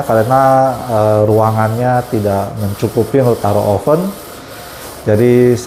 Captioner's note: printer machine noise